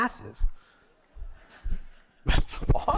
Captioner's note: laughter